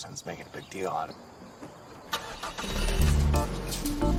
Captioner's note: engine starts; up-tempo Caribbean music playing